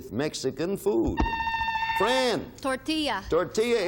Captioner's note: buzzer beeping